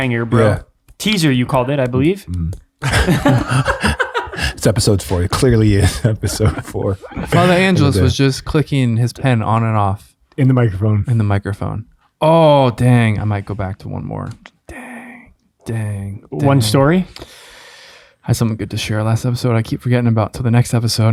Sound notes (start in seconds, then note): 2.8 friars laugh